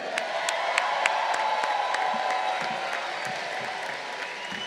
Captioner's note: crowd cheering